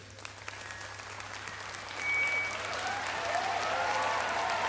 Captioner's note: applause